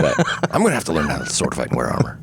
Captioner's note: laughing